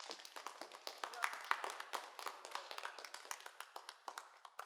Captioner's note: students applauding